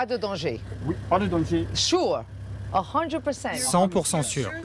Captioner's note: in English